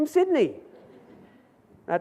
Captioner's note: audience laughs